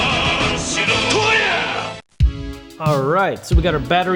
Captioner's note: advertiser singing in Japan; japanese fighter yells